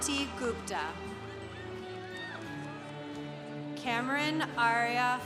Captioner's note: congregation applauding